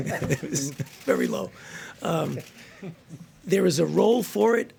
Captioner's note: laughter